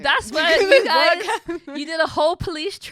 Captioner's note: laughing